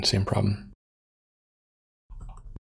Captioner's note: blank Audio